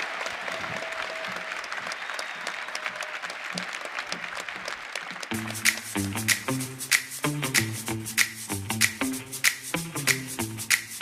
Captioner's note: cheering and applause